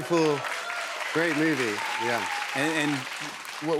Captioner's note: cheers and applause